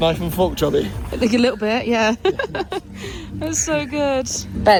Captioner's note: laughs